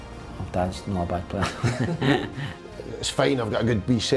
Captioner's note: chuckles